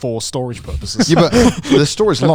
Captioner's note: laughing